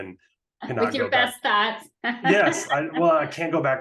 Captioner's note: laughing